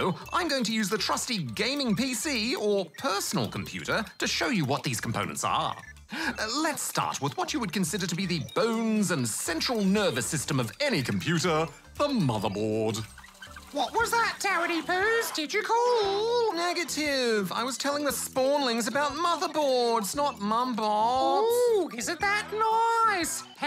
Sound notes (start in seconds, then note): 16.3 whiningly